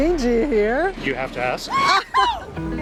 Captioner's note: laughs